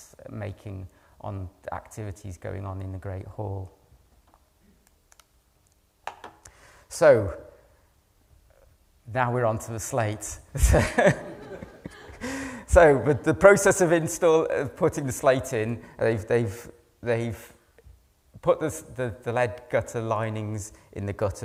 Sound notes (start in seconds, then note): 10.6 laughing